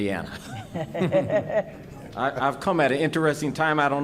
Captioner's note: laughing